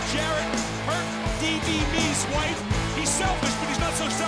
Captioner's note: laugh